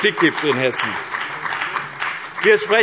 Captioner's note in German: Beifall bei dem BÜNDNIS 90/DIE GRÜNEN und der CDU